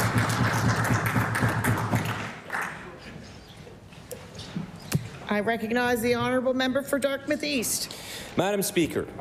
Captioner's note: applause